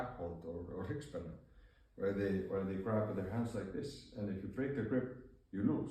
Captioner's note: Icelandic